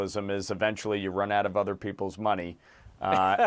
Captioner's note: laughter